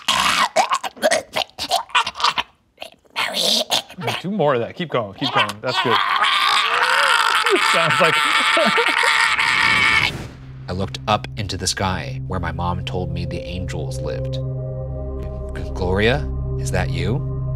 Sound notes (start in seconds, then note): 7.0 making strangled noises; 9.8 laughing